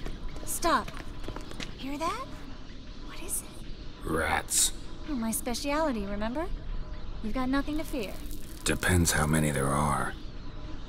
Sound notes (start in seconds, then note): 0.0 faint squeaking; 3.0 hushed